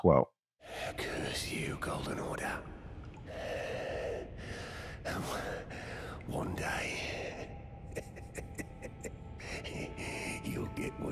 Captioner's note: laughing